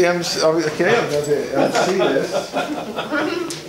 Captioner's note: laughing